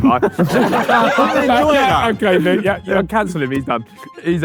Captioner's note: group laughing